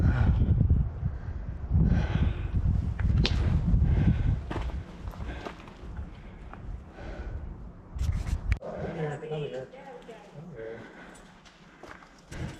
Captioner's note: wind